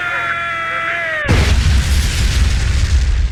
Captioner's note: pilot screaming; plane crashing